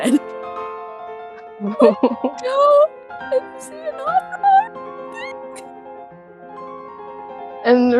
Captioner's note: high pitched